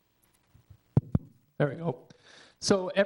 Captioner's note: mic thumping